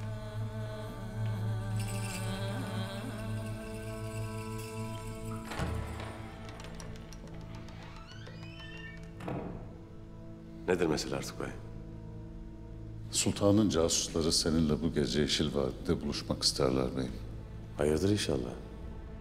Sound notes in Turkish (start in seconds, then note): 5.5 Kapı açılma sesi; 7.3 Kapı kapanma sesi; 8.2 Kapı gıcırtısı sesi